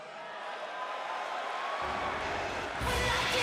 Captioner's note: crowd cheering